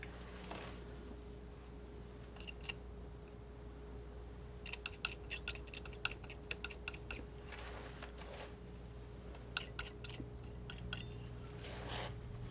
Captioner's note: scissors snipping